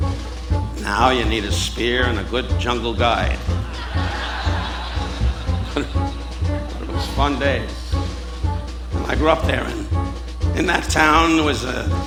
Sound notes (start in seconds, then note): 3.1 audience laughing; 6.3 chuckling